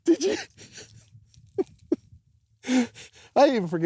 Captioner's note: laughs